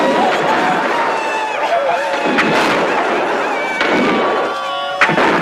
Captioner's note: Aplausos